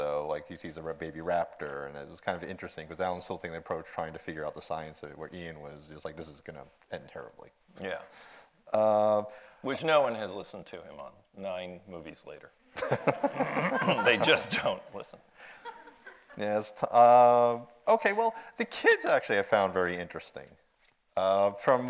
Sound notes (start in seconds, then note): 12.8 audience laughs